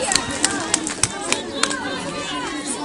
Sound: crowd

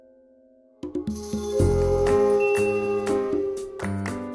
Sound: cue howling werewolves!

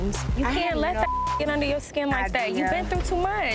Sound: beep

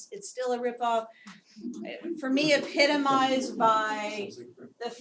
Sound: laugh

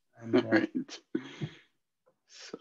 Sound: chuckles

